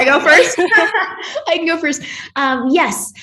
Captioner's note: laughs